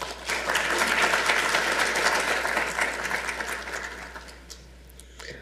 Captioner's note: audience applauding